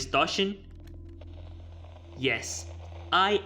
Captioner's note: radio noise